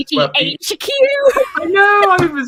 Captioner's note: laughs